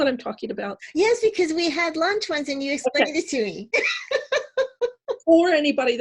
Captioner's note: laughter